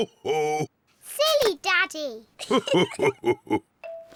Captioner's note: both laugh